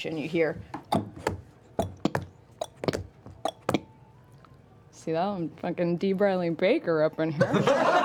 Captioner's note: clopping